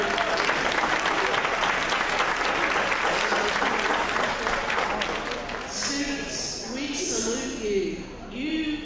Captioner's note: applause